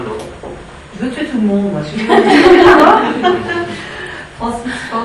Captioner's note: laughing